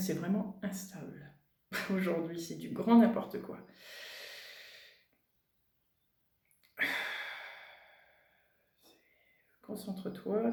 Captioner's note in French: soupir